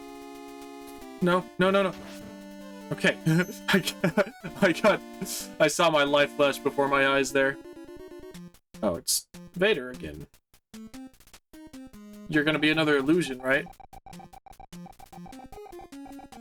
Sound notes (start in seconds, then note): 3.2 chuckling